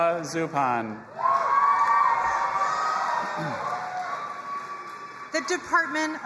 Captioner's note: audience applauding and cheering